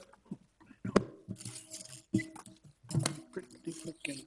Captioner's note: mic thudding